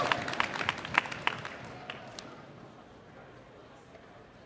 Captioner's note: cheers and applause